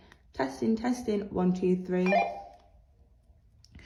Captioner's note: beep